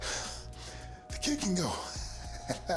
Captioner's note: laugh